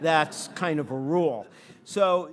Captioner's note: audience laughing